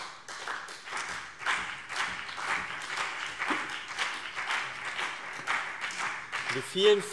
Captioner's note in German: Beifall CDU und BÜNDNIS 90/DIE GRÜNEN